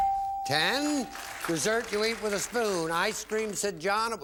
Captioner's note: applause; bell